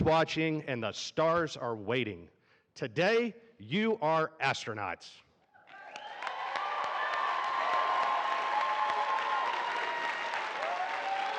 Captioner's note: applause